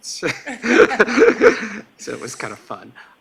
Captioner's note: laughing